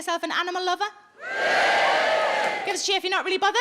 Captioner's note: audience cheers